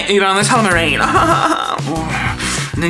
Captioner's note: laughs